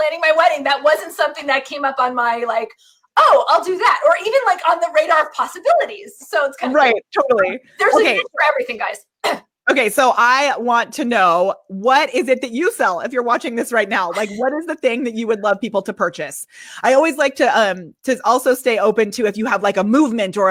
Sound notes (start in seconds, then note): 9.1 clears throat